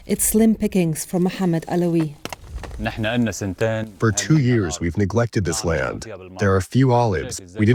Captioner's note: through translator